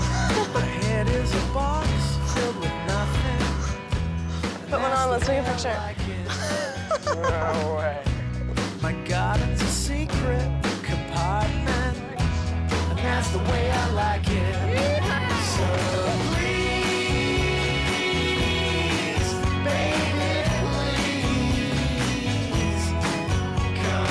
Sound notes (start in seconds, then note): 6.0 laughing